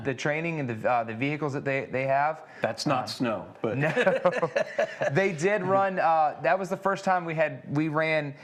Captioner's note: laughs